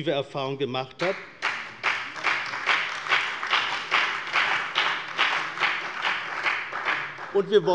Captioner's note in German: Beifall bei der CDU und dem BÜNDNIS 90/DIE GRÜNEN